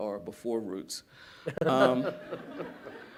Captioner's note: laughter